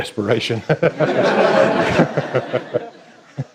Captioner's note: laughter